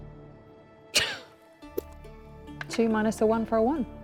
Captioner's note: scoffs